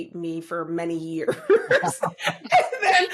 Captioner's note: laughter